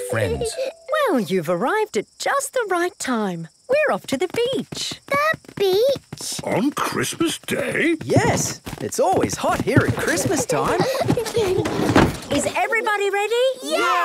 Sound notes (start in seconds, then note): 9.6 kids giggling